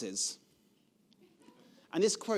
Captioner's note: audience laughing